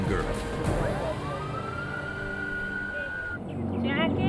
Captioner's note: sirens wailing